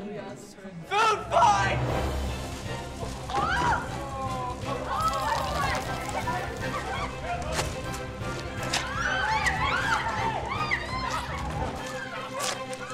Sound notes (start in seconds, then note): 2.2 playful music; 3.2 group screaming